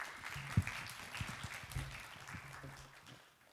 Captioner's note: applause